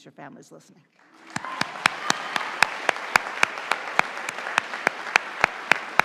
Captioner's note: audience applauding